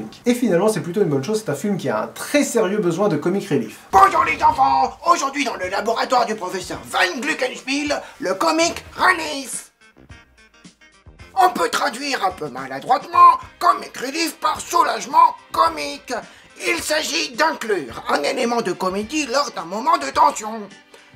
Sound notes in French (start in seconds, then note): 3.7 Prof, très fort accent allemand